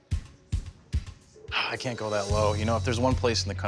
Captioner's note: sighs